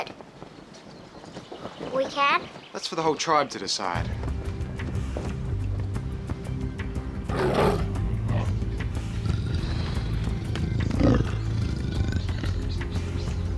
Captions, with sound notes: We can? - That's for the whole tribe to decide. (lion roaring) (dramatic music)